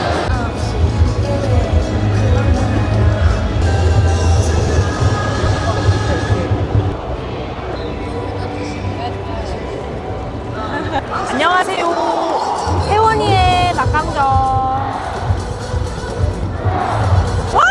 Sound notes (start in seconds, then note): 5.3 a slightly sassy cheer